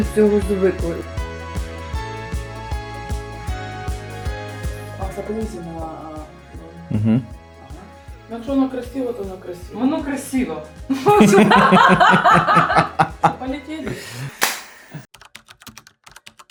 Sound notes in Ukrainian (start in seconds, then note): 11.0 сміх